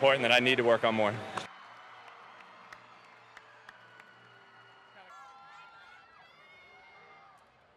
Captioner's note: crowd cheers